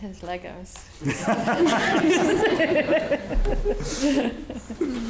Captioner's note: audience laughing